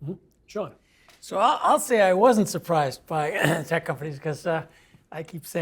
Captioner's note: cough